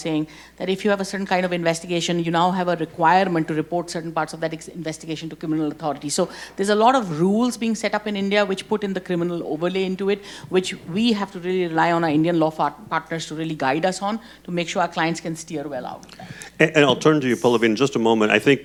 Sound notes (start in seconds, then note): none